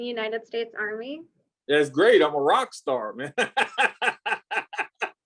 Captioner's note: laughs